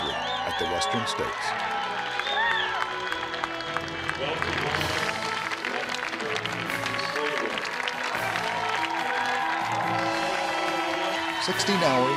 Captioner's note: cheers